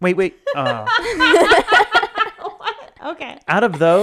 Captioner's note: both laughing